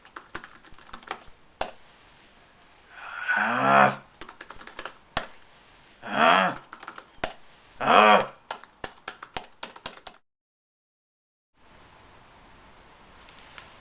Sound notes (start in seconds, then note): 0.0 typing; 2.9 angry grunt; 4.6 angry typing; 6.0 grunt; 6.3 typing; 7.8 grunt; 8.3 rapid typing